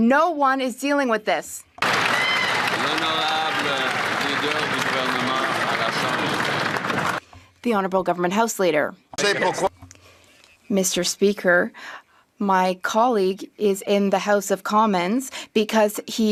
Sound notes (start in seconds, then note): 4.9 some Applause